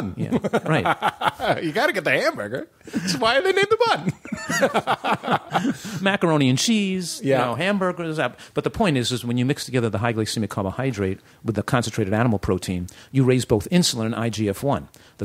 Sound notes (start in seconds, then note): 0.2 laughter; 4.0 laughter